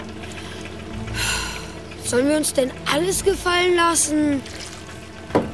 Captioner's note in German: seufzt